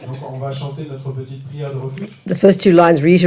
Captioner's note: French